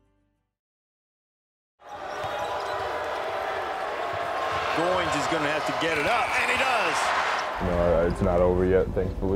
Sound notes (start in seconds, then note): 1.8 audience cheers